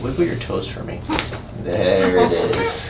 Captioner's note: cracking noise